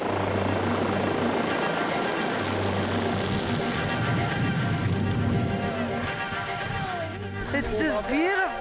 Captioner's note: chopper sound